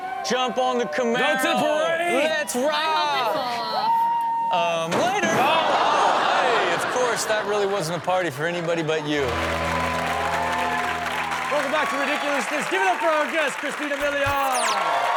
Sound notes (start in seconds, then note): 5.2 audience exclaims; 9.7 audience cheering and clapping; 14.9 audience cheering and clapping